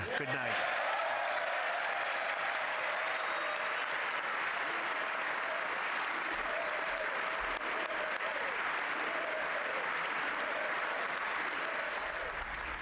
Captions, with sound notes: FAMILIES WILL THRIVE, OUR PEOPLE WILL PROSPER AND OUR NATION WILL FOREVER BE SAFE AND STRONG AND PROUD AND MIGHTY AND FREE. THANK YOU AND GOD BLESS AMERICA. GOOD NIGHT. [APPLAUSE]